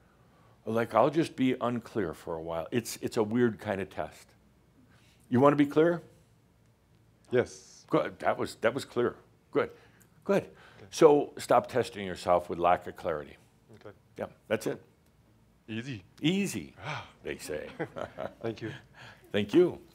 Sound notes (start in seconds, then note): 17.4 they chuckle